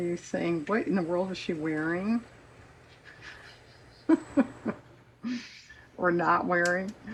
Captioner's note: laughs